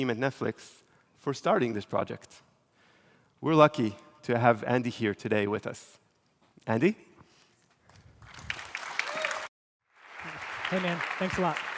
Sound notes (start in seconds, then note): 9.8 applause